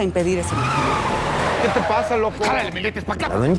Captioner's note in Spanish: Chirrido de llantas